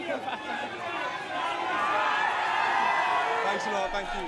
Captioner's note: crowd cheering